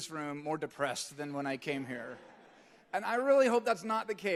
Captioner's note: audience laughing